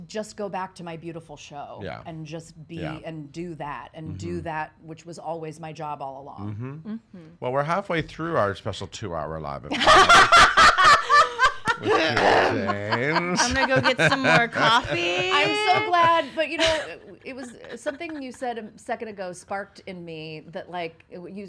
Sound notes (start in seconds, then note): 9.8 laughing